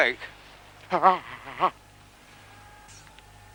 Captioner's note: jerome exclaiming in pain